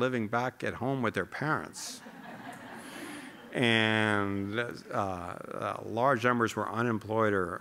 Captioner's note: laughter